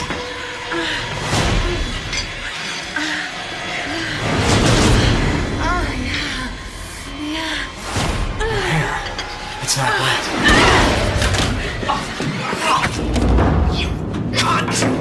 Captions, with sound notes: (moaning) Oh yeah... ...yeah... Your hair... it's not wet... You cunt!